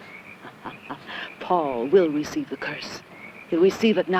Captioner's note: laughing